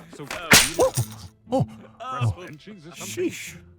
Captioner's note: LeFraude laughs demurely; mousetrap goes off; Blockson yelps